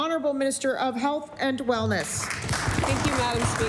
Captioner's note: applause